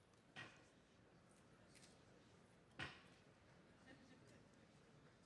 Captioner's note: walking stick thudding